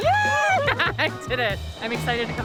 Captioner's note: laughs